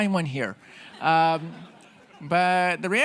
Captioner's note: audience laughing